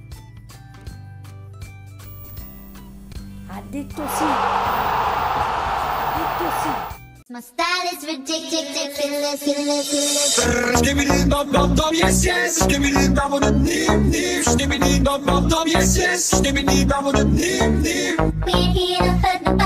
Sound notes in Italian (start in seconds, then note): 4.0 esclamazione stadio calcio